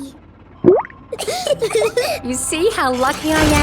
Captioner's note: bubbles; laughing